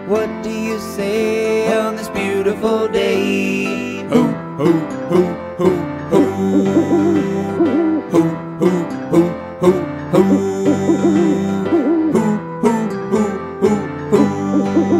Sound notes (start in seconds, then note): 6.2 owl hooting; 10.2 owl hooting; 14.2 owl hooting